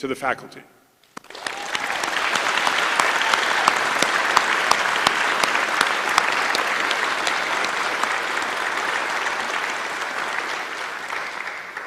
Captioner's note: applause